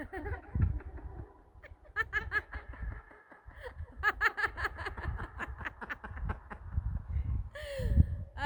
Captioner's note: crazy laugh